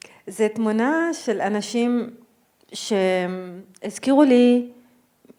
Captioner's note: speaking in foreign language